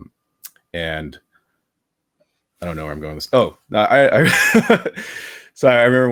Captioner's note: laughs